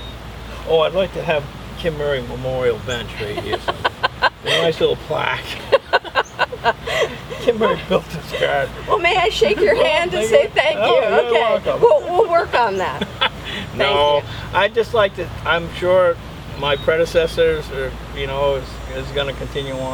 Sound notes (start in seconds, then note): 3.1 chuckling; 10.3 shaking hands and laughing; 13.4 laughing